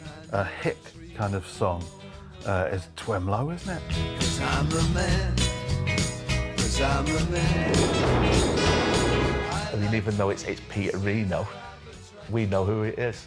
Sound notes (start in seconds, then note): 7.5 guns banging; 8.3 70's pop music